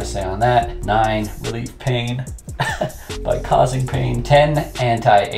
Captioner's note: chuckles